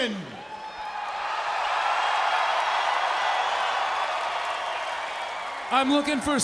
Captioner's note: crowd cheering